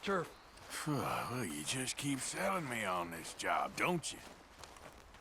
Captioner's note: sarcastic